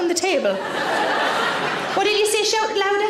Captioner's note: audience laughing